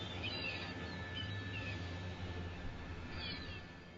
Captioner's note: birds chirping